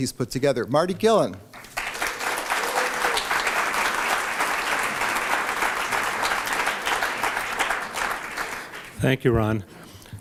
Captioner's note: applause